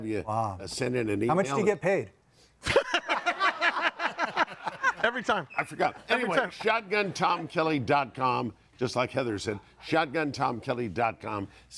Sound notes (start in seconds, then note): 2.7 audience laughing